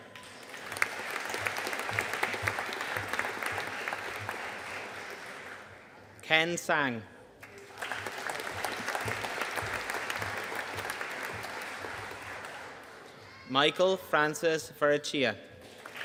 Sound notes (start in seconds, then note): 0.2 audience applauding; 7.4 audience applauding